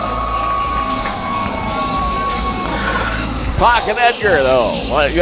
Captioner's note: rap music continues; cheering and whistling continues